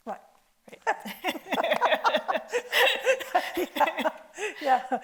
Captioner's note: both laughing